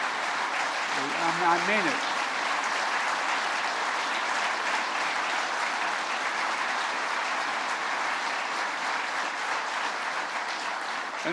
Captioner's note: applause